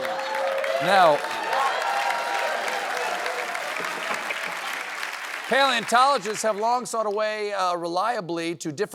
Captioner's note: laughter